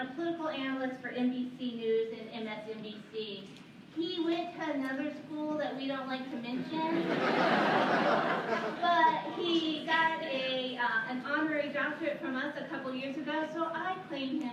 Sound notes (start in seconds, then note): 6.8 laughter